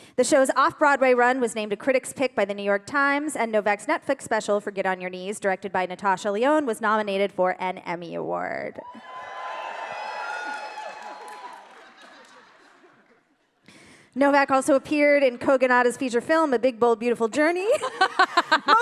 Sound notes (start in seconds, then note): 8.8 audience cheering